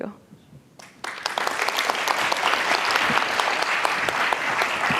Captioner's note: audience applauding